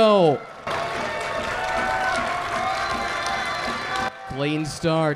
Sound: crowd cheering

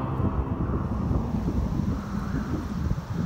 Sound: wind howling, whistling

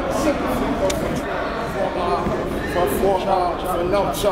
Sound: players chattering

